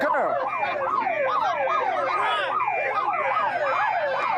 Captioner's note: siren wails